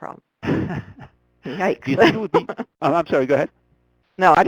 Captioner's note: laughs; voiceover